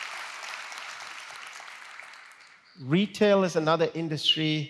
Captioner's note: applause